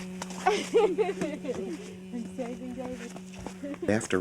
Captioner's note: laughing